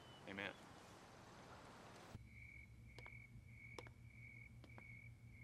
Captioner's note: crickets chirping